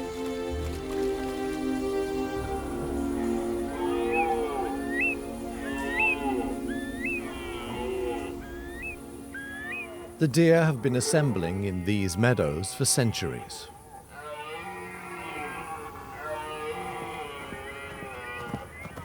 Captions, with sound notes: [deer calls] The deer have been assembling in these meadows for centuries. [deer calls continue]